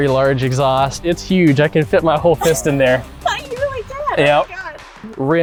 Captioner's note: laughs